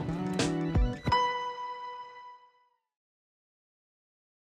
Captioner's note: gentle music continues; electronic tones chiming